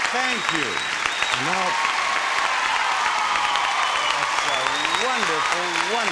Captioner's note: audience applauding